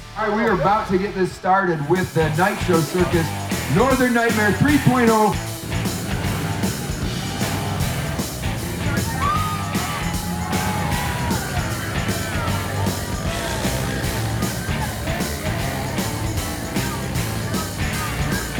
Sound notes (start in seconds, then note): 5.4 rock music playing; 8.9 crowd cheering